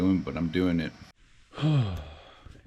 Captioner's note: sigh